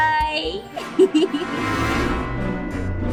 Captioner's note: giggle